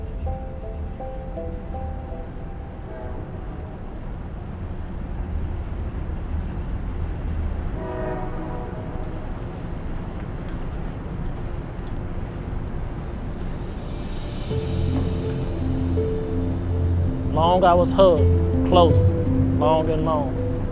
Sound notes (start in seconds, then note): 2.7 faint sound of train whistle; 7.7 louder train whistle